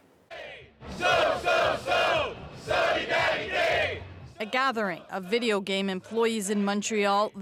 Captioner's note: chanting